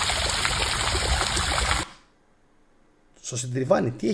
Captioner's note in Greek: χειροκρότημα